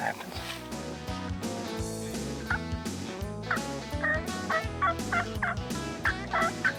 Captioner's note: upbeat music; turkey calling